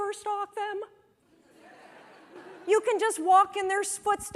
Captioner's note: laughter